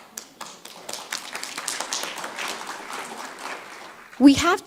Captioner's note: audience clapping